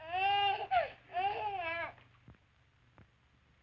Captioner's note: baby quiets